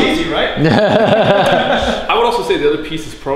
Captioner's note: laughing